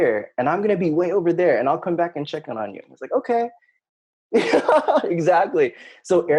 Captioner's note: laughing